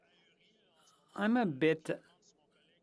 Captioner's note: speaking French